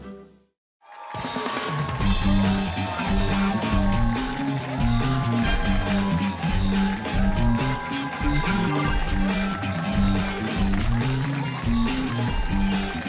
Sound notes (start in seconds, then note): 0.7 cheers and applause